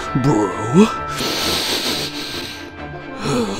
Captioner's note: sniff